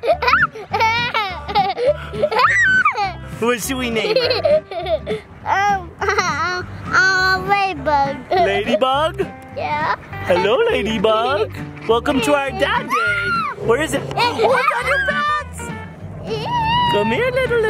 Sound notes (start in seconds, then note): 0.0 giggles and screams; 4.1 giggles; 12.6 screams; 16.2 giggles